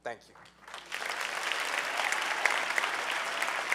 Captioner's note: clapping